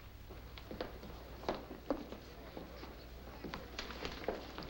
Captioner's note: soft chattering